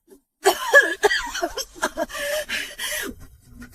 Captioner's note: coughs